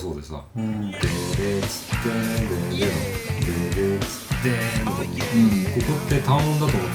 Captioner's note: humming